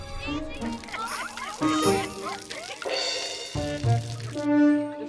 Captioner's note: water dripping